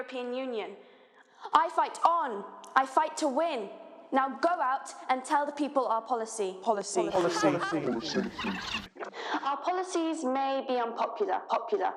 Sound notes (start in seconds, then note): 7.0 laughing; 7.5 echoing